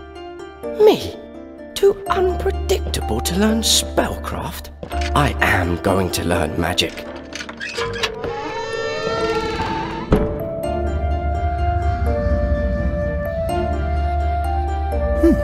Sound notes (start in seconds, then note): 0.1 soft music; 8.8 door creaking; 13.5 soft music